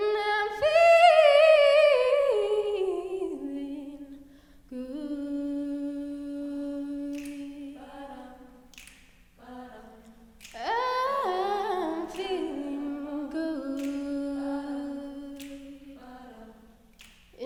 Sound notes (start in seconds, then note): 8.6 women snapping in time